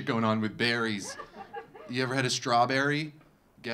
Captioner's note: audience laughing